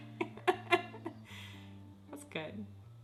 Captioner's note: laughs